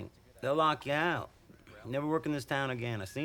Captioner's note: none